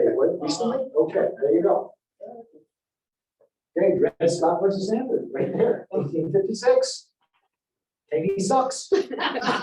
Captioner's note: laughter